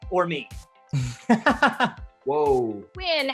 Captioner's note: laughing